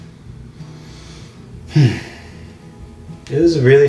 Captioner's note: deep breath